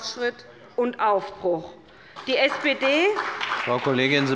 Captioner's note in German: Beifall bei der SPD